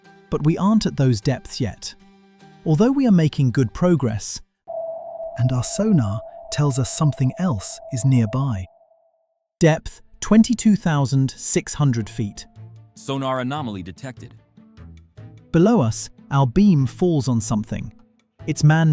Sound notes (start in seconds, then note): 9.2 system Beep